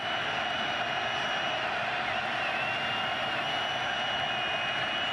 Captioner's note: crowd cheering